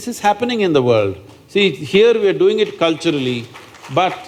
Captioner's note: applause